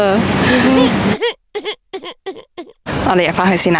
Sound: cries

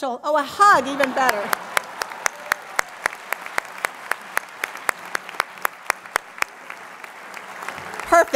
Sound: applause

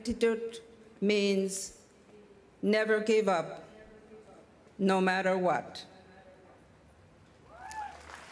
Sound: speaking Indigenous Language

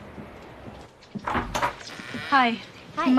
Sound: Sarah knocking

